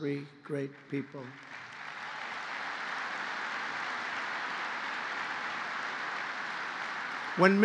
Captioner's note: applause